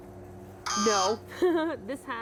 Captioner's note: buzzer; laughs